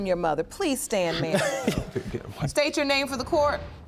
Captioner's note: scoffs